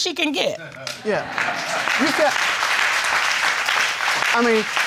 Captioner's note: crowd applauding